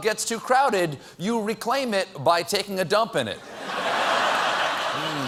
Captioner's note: laughter